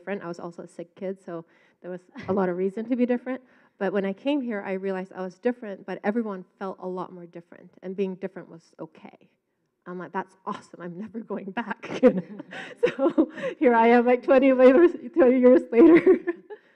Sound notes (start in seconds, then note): 11.7 laughs